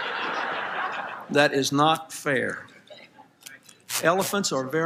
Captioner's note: laughter